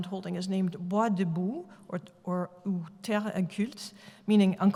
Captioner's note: french